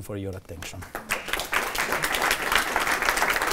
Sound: applause

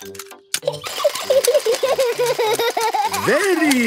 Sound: giggling; George laughing

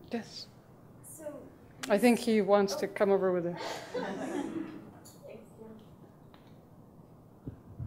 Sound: laughing

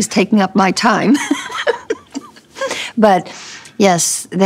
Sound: laughing

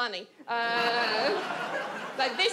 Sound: audience laughs

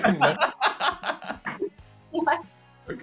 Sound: laughing

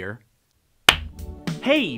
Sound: clap

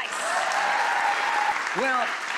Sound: crowd cheering

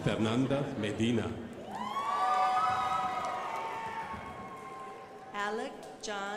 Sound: crowd applauding

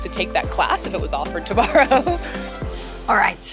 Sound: laughs

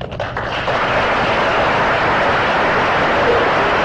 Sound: laughter

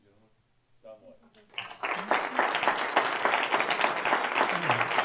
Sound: audience applauds

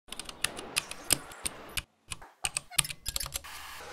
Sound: assorted items clicking

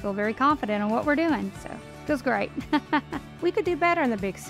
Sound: laughs

